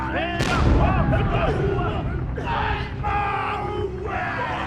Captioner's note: canon firing